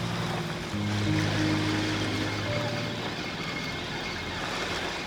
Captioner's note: quiet whirring